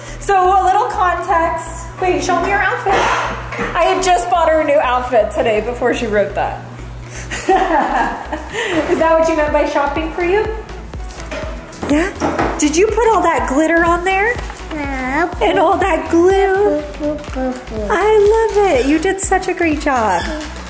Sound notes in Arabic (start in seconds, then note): 7.4 يضحك بصوت عال